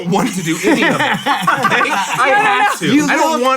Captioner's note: all laugh